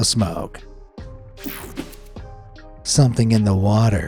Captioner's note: mellow music; graphic whooshes